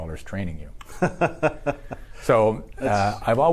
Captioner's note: laughs